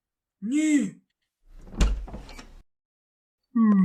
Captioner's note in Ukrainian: Звук дверей